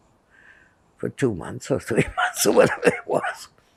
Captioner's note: laughing